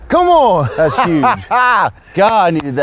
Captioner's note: laughs